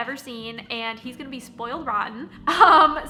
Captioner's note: chuckles